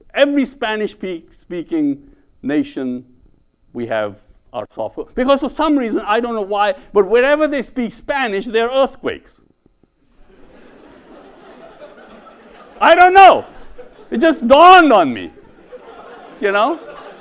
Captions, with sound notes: Every Spanish-speaking nation, we have our software because for some reason, I don't know why, but wherever they speak Spanish, there are earthquakes. (audience laughs) I don't know, it just dawned on me, you know?